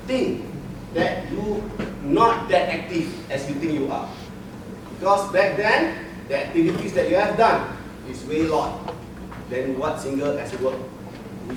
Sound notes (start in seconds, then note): none